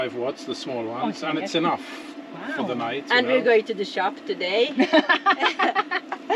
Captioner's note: laughter